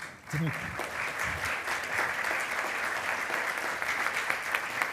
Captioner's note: attendees applauding